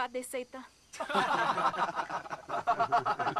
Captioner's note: laughter